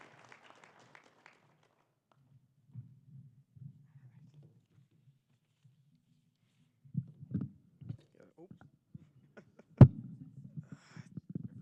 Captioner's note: applause